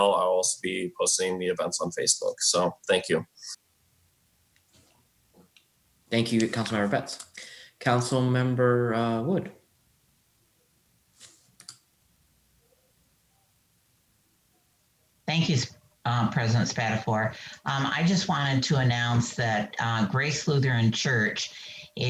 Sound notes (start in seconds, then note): 11.2 mouse clicks